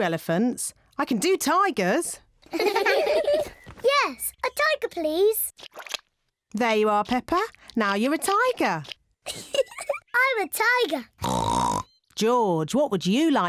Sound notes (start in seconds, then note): 2.4 kids giggling; 9.2 giggles; 11.2 oinks